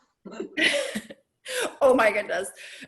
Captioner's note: laughs